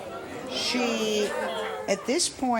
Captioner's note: audience talking